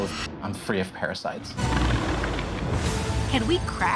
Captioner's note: roaring